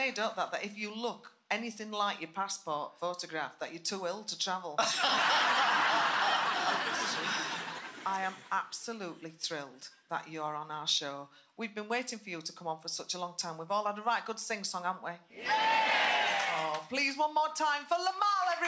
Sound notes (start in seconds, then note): 4.8 laughing